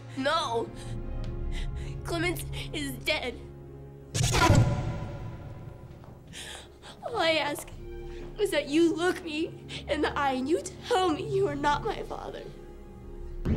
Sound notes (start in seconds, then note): 4.1 rapid startling swooshes